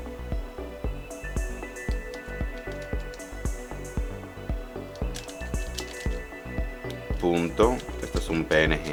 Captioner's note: typing